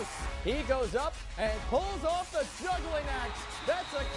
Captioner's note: cheering, then music